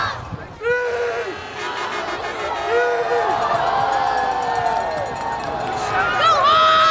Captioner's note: fans cheering